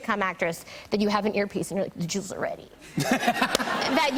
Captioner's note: laughter